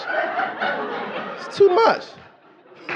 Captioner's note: audience laughing